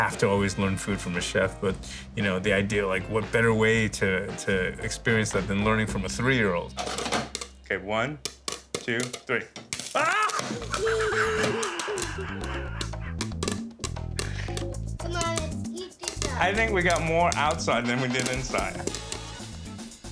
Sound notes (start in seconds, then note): 9.7 popcorn popping; 10.0 laughter